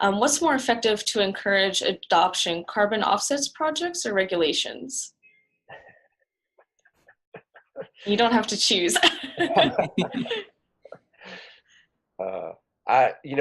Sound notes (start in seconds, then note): 6.0 man chuckles; 8.8 laughs; 8.9 chuckles